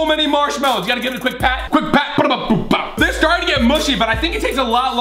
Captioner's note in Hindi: मुँह से आवाज़ करता है